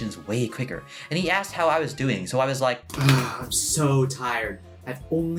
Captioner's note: sigh